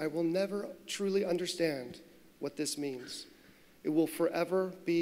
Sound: none

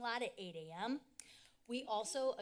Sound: click tongue

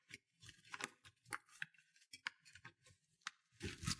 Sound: none

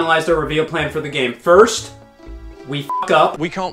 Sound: beep

